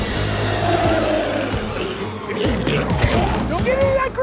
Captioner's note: intense music; glowzies growling